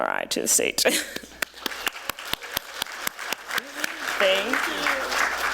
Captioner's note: applause